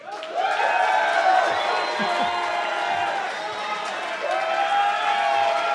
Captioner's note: cheers and applause